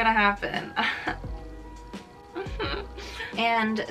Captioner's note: laughing in pain